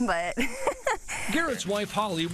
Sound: laughing

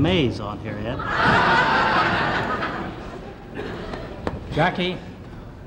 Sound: crowd laughing

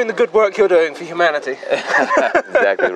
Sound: both laugh

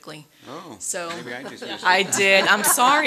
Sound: audience laughing

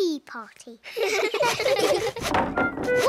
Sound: clattering; all laugh

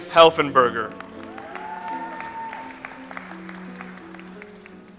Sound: audience applauds

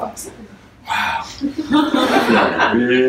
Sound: audience laughs

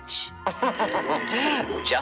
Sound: chuckles

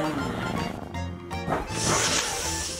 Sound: Pinkie purrs; sniffs

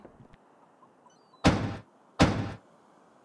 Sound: car doors slam

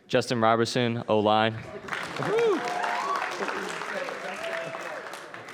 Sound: audience applauding

